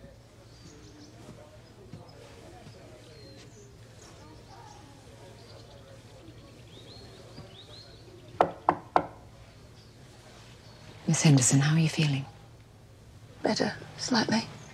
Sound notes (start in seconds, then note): 8.4 knocks